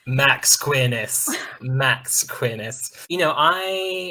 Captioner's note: laughter